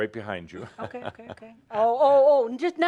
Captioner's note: chuckles